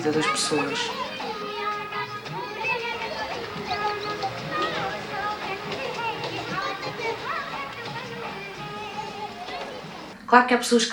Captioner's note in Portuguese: vozes de crianças